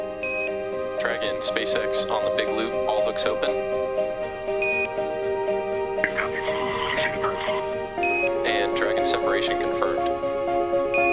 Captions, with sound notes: Dragon SpaceX on the big loop, all hooks open. (rocket engine roaring) And Dragon separation confirmed.